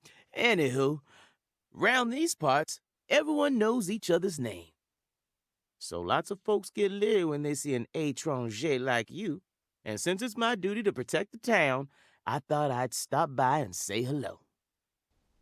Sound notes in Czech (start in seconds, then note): 9.3 francouzsky